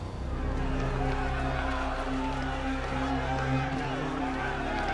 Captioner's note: people shouting